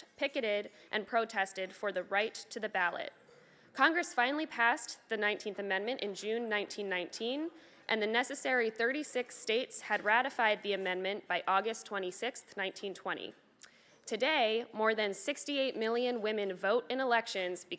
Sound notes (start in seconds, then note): none